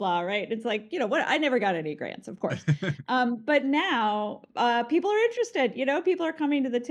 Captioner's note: laughs